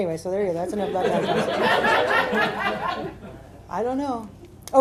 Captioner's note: laughter